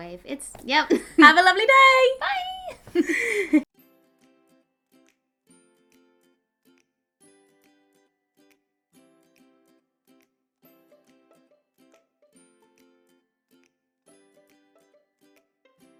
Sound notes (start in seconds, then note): 2.7 laugh; 3.6 peaceful music